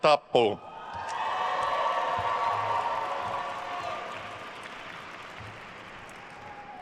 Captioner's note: attendees cheering and applauding